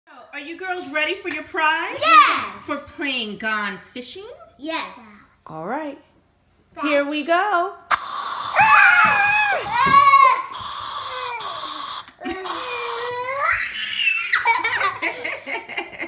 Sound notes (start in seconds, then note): 0.4 voiceover; 6.1 voiceover; 8.3 screaming